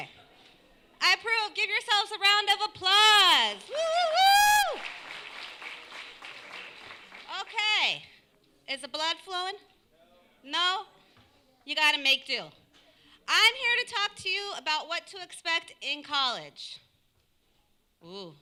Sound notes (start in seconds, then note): 4.4 applause